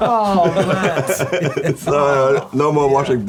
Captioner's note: laughing